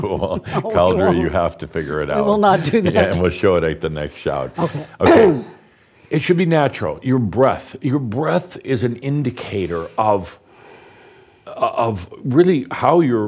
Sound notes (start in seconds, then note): 2.4 Adamus chuckles; 2.5 chuckling